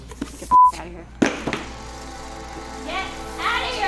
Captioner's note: sad music plays; box clatters